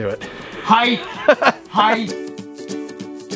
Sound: exclaiming; peppy ukulele music

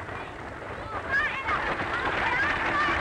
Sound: yelling

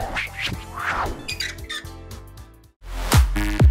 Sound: light whipping; light squeaking; exciting rhythmic music

